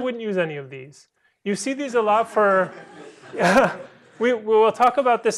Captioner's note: laughter